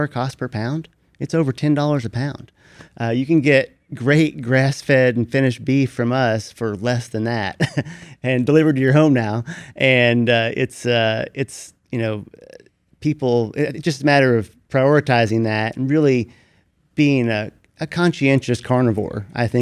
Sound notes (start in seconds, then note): 7.5 chuckles